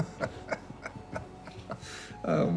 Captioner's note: chuckling